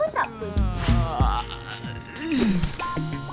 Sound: yawning

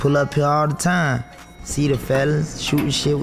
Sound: elevator bell ringing

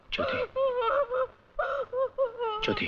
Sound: sobbing

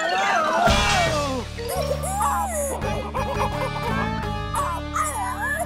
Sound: squeaking

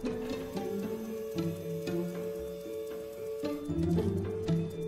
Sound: lift whirring

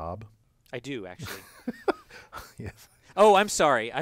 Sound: laugh

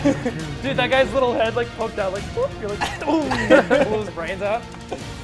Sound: laugh

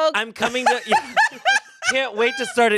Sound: laughs

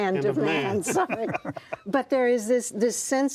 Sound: laughter

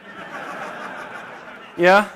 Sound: laughter

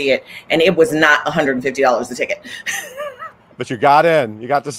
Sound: laughs

